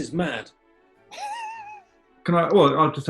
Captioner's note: sniggering